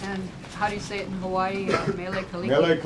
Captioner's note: laughter